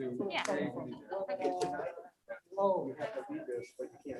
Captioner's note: members chatting